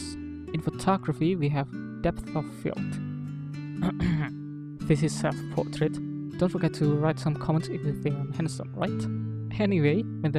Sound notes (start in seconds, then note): 3.8 clearing throat